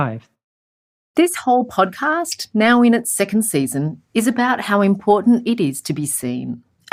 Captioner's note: voiceover